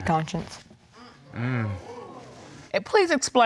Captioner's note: crowd gasp